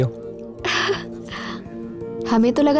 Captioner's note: Chuckles